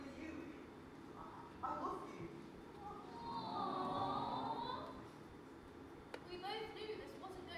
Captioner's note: audience awwwws